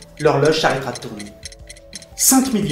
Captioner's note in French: tic tac de l'horloge